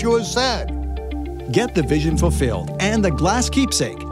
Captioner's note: male Voice